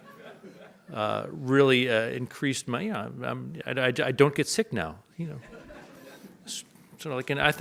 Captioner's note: audience laughs